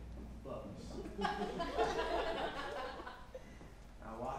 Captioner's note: audience laughs